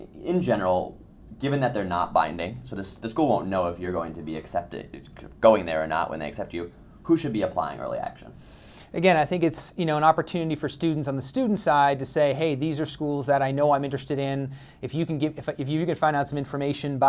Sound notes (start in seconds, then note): 9.0 voiceover